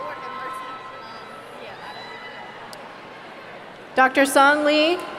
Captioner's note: speaking away from microphone